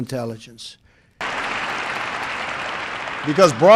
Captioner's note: applause